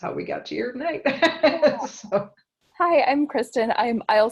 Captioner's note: laugh